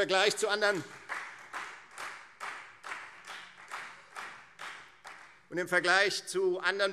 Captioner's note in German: Beifall Freie Demokraten